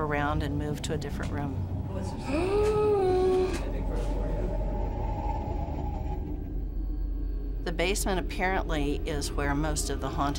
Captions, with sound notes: and move to a different room. [gasping] The basement apparently is where most of the hauntings